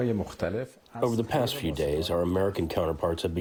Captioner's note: through translator